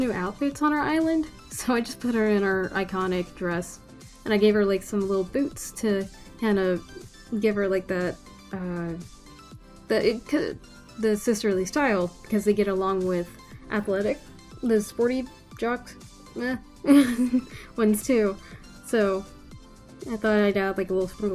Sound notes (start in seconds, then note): 8.9 stammers; 16.9 laughs